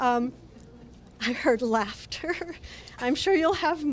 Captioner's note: laughs